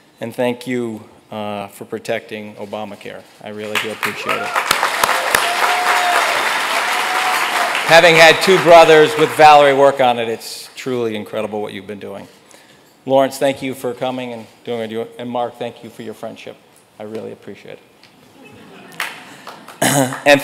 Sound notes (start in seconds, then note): 5.9 audience applauds loudly